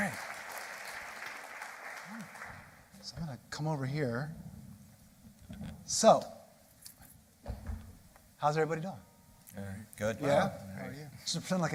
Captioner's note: applause